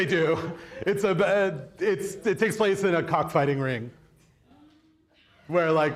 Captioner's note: audience laughs